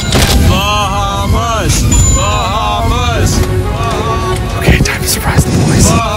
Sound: chanting

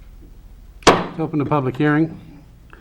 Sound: gavel banging

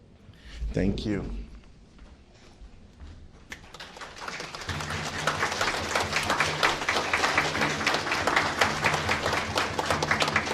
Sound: applause

